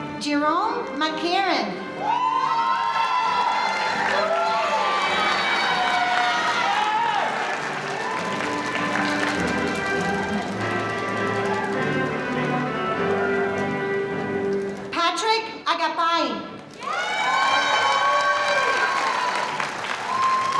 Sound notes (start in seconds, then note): 1.7 audience cheering; 16.7 audience cheering